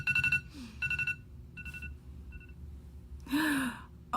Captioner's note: alarm ringing; gasps